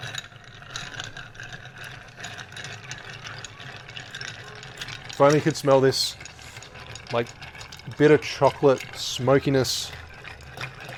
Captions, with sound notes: (stirring noises) Finally you can smell this bitter chocolate smokiness.